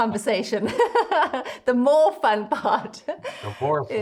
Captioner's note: laughs